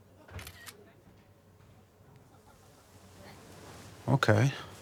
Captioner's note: camera shutter clicking